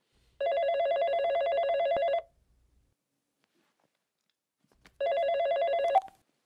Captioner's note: phone ringing